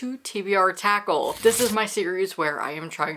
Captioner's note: paper rip